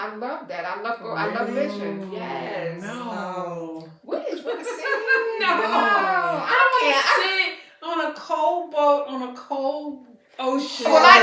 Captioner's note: laughter